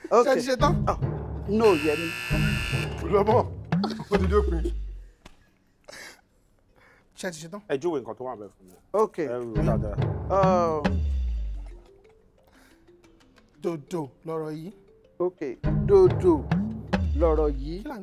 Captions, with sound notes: Are you ready? No. (Buzzer pressed) You've already hit the limit anyway. Are you ready? Describe the card for me. Okay. The tonal pattern is "do do." Okay. The tonal pattern is "do do."